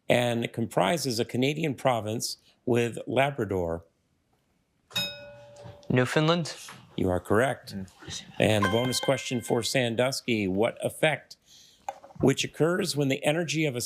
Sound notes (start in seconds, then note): 4.9 bell dings; 8.6 triumphant chime